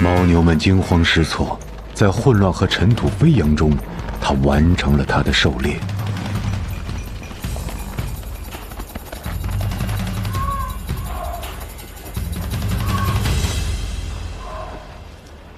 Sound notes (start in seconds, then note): 8.8 hooves pounding; 12.7 intense music